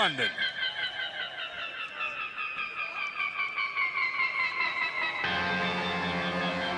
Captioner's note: crowd cheering